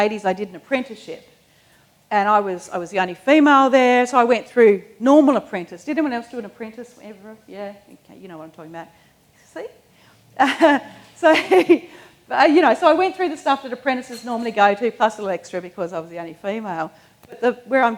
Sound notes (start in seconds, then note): 10.4 laughs